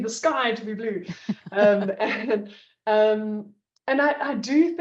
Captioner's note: laughs